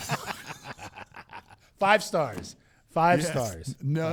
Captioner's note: laughing